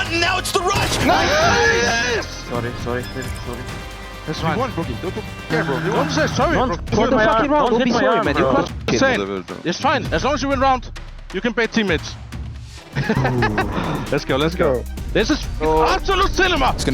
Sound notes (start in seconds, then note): 1.0 speaker exclaiming; 12.9 player chuckling; 13.0 player sighing